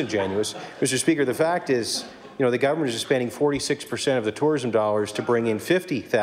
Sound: laughter

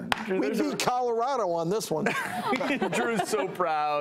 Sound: laughing

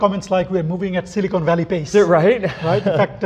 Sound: chuckles

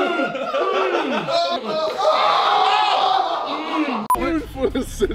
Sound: laughing and yelling

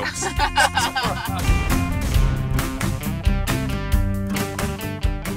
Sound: laughing; metal doors slamming

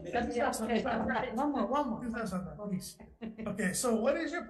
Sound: murmurs

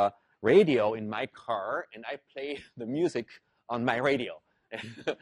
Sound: laugh

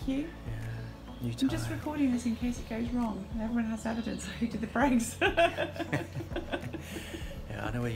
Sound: laughs

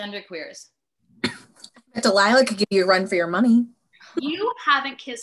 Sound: cough

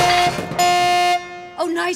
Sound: beeping

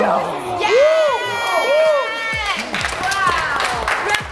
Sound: applause

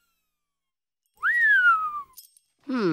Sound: whistles

